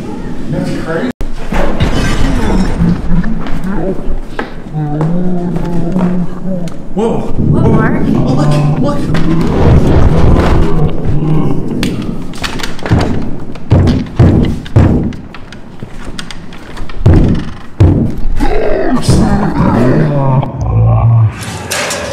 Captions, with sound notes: (demonic warbling) What, Mark? Look, look. (banging on door) (demonic warbling)